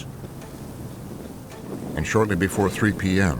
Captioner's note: wind blustering